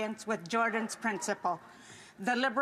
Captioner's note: speaking Indigenous Language